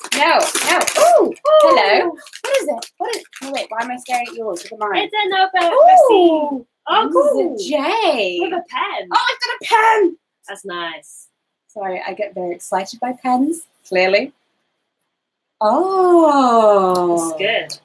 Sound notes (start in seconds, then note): none